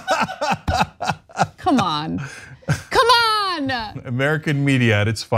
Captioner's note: laugh